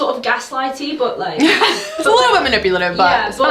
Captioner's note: both laugh